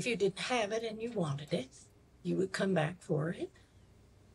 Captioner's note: none